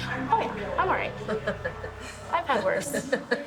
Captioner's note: laughs